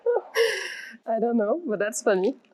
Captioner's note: laughs loudly